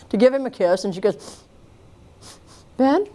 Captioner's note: sniffs